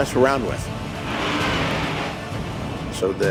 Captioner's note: dragon shrieks